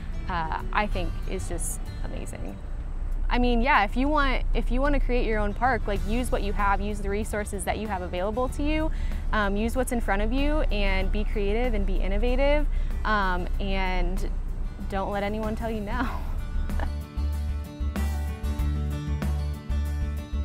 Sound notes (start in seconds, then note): 14.9 joyful music; 15.2 giggles